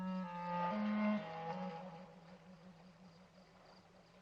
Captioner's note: water rippling